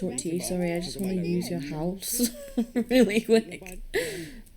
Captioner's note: laughing